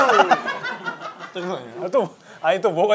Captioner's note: laughing